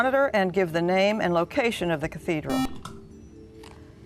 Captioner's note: buzzer